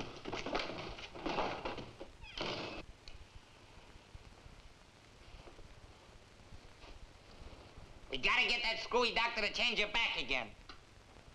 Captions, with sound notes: (door thuds) We got to get that screwy doctor to change you back again.